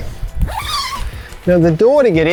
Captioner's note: unzips